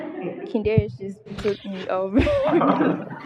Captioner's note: laughter